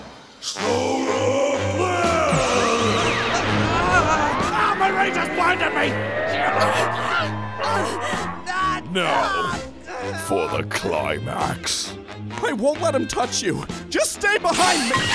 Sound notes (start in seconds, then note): 6.1 16, 18 and Krillin groan; 9.3 still groaning